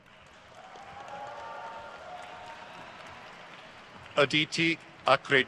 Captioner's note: audience cheers